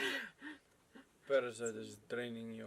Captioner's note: laughs